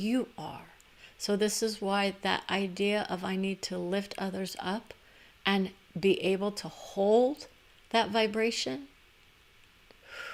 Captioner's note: breath